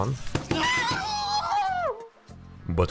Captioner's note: inhuman anime noises